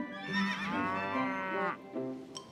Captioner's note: traffic honking; horse neighs, cow moos